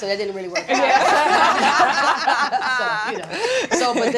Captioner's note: all laughing